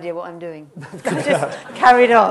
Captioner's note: laughter